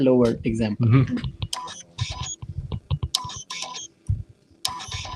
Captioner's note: beeping